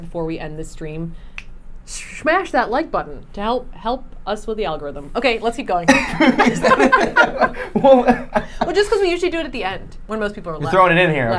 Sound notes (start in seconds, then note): 1.4 finger snaps; 5.8 laughing